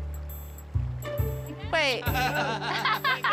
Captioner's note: laughter